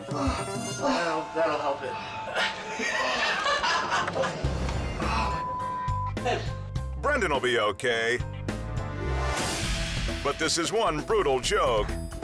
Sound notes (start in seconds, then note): 2.2 friends laughing; 8.5 transition whooshes